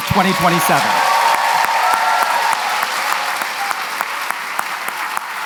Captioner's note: applause, cheering